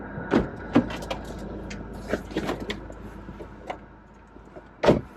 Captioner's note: opening and closing car door